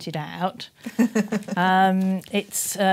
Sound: laughs

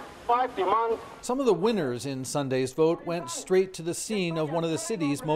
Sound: speaking foreign language

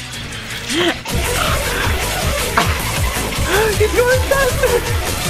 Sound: breathing

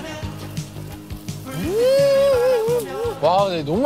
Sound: exclaiming

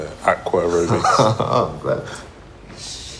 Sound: laughs

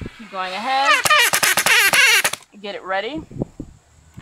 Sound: drill whirring

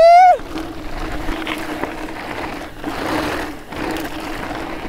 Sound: trail crunches

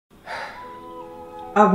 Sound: sigh

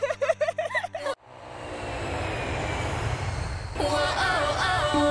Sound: both giggling; plane engine roaring

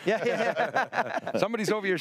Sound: all laughing

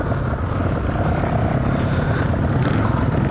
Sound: engine revving

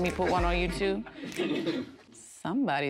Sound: laughs

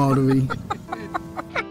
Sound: laughs

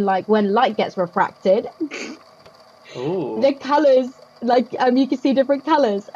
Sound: laughs

